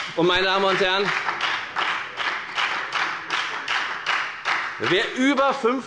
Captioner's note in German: Beifall bei der FDP und der SPD